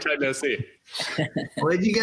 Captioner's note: laughs